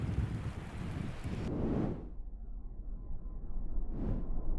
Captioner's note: whooshing